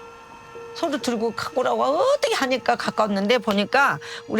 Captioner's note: speaking Korean